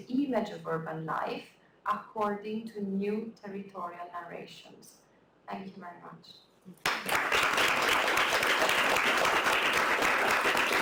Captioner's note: applause